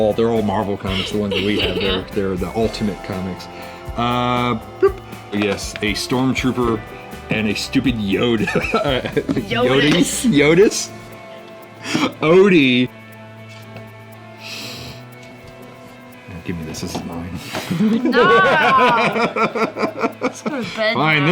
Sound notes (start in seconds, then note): 17.6 laughs; 18.1 murmurs